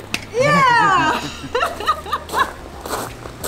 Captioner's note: laughter